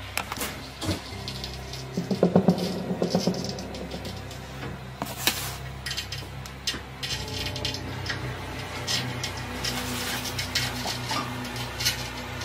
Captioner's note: scratching sound on the mirror